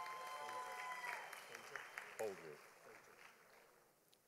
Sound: audience applauding

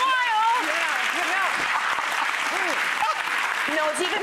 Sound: audience applauds

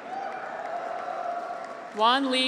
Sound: graduates cheer

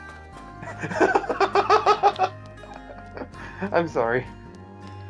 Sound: laughs

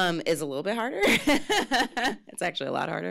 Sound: laughs

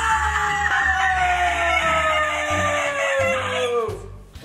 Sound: yells

